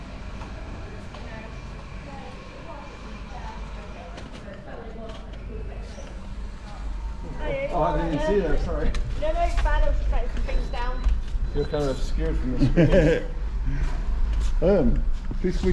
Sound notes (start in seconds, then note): 5.0 background chatter; 12.5 laughter